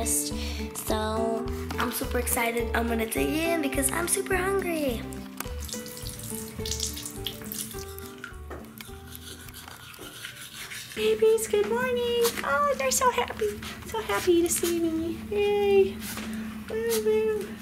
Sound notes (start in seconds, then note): 5.5 water splashing; 8.6 brushing